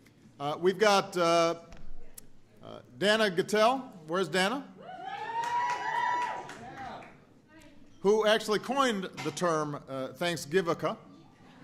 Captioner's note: applause